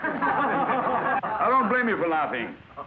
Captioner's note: class laughs